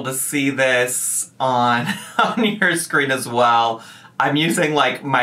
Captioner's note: laughs